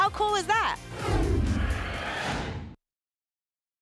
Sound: whoosh

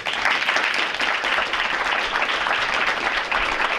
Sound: audience applauds

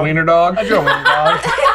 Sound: laughter

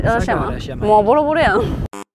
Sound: osaka dialect

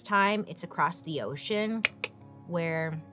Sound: clicks tongue

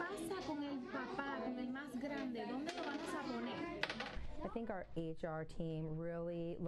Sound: �speaking spanish�

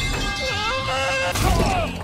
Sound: screams in nanomachines

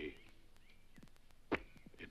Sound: spits

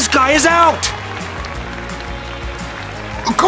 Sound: cheering

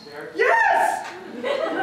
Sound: audience laughter

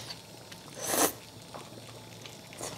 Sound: slurping

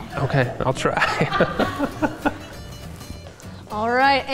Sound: laughs

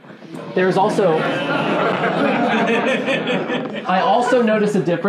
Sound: laughing

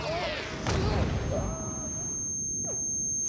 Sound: shrieks

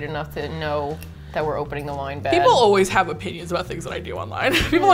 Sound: chuckles

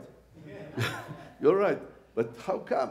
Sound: audience laughing; laughs

